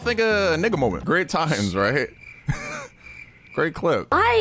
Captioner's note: crickets chirping